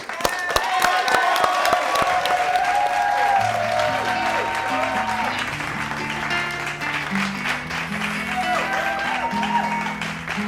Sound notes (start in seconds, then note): 0.1 applause; 4.0 cheers